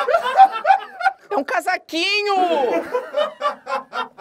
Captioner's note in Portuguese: risadas; risadas